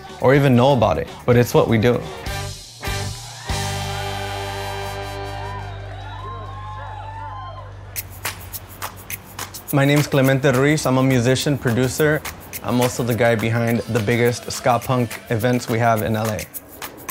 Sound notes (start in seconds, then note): 3.2 applause and cheers; 8.2 latin music